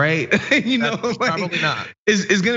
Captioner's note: laugh